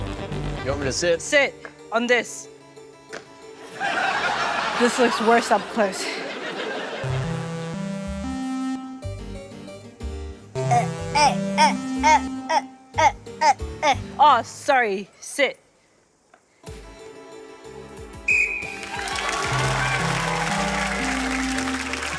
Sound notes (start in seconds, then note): 3.6 laughter; 6.9 ascending keyboard notes play; 18.2 blows whistle; 18.6 ascending keyboard notes play; 18.7 cheering, applause